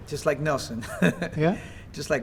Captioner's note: laughter